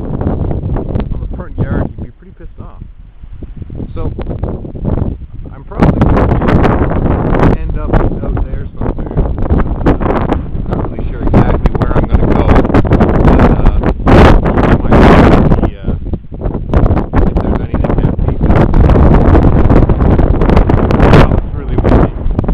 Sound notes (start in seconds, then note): 14.2 wind too loud